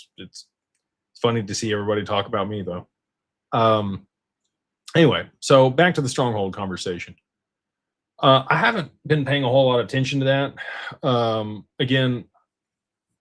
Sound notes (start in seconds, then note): none